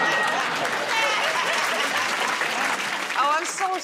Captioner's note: applause